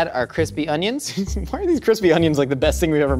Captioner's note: laughs